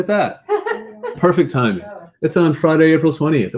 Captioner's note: laugh